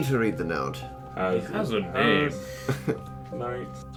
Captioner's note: scoffs